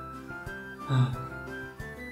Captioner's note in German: seufz